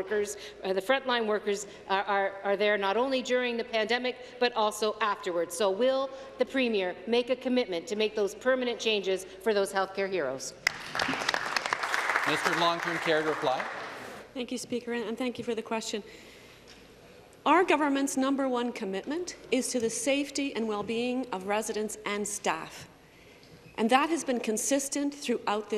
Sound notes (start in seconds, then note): 14.0 applause